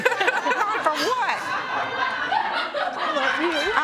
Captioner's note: laughter